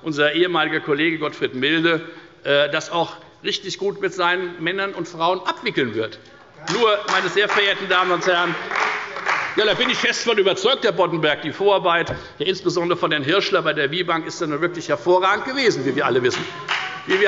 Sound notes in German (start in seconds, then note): 6.6 Demonstrativer Beifall bei Abgeordneten der CDU